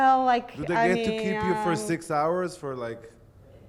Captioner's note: voiceover